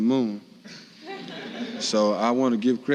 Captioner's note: audience laughs